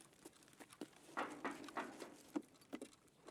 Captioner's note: footsteps